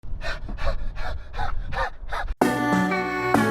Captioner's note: heavy panting; upbeat music